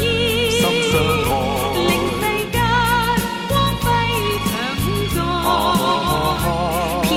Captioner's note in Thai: ฮ่า ฮา ฮา ฮ้า